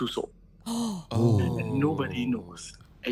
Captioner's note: gasp